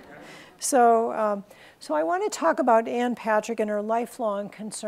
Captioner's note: laughs